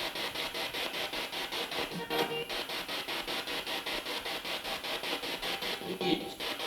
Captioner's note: noise of the spiritbox in the background